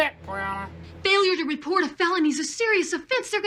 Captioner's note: on TV